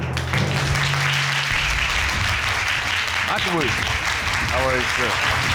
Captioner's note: applause